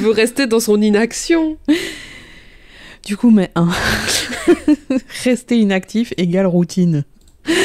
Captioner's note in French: soupir; Voix off; rire